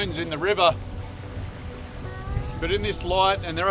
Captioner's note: boat motor